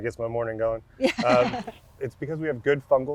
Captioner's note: laughs